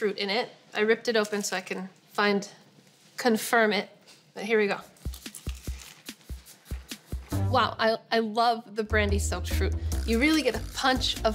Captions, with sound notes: I ripped it open so I can confirm it, but here we go. (doughnut crunches) Wow, I love the brandy soaked fruit. You really get a punch of booze.